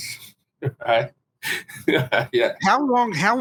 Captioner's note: laughing